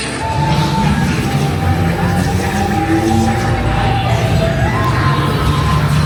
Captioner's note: eerie sci-fi music; electronic whirring